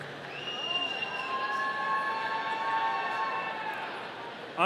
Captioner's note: audience cheering